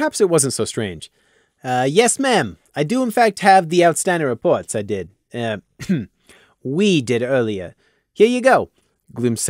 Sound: ehem

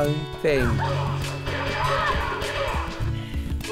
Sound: game fighting noises

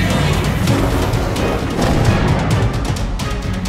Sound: vortex whirling

